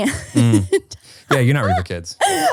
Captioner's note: laughing